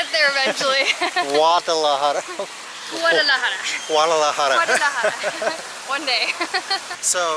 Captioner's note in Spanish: Risas; Risas